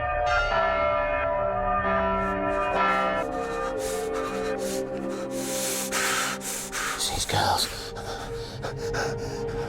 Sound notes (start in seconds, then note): 0.0 church bell tolls; 2.3 Stoker hyperventilating; 3.3 choral music plays